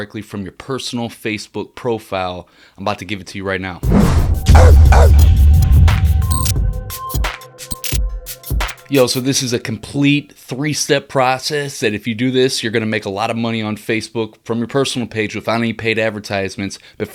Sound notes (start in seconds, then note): 3.8 upbeat music; 4.5 dog barking